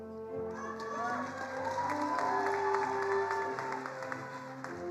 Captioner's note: attendees applauding